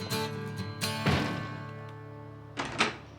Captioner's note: door closes